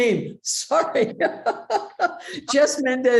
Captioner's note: laughing